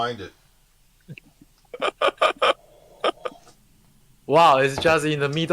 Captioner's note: laughing